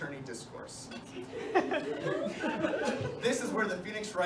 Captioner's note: laughter